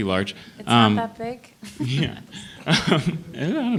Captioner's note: laughs